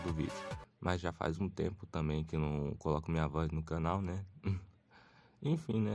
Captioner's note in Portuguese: ruído da boca